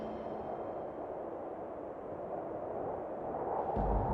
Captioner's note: wind whistling